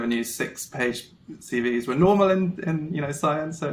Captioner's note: none